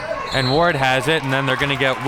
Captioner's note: whistle blows